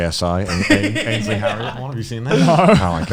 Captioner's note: laughs